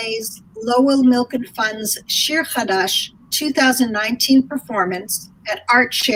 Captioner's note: speaking in foreign language